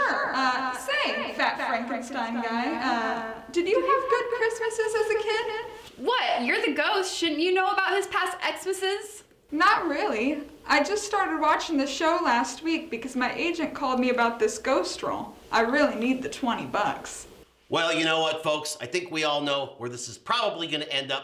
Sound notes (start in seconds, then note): 9.6 normal voice